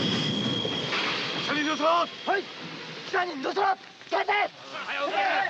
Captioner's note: shouting in Japanese